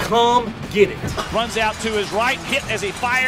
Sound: voiceover

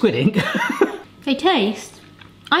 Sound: laughing

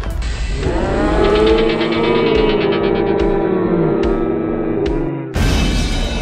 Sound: slowed screaming

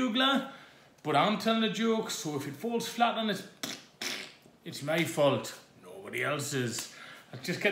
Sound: makes fart sound

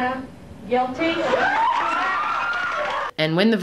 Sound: audience cheering

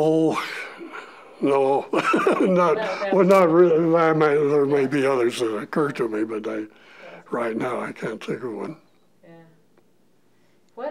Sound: chuckle

